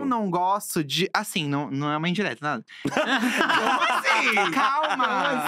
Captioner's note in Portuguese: risos